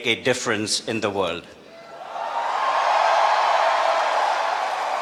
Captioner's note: cheering